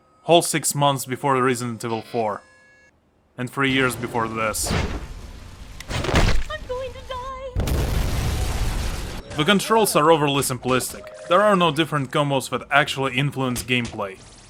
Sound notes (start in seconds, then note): 5.8 smack; 7.6 kaboom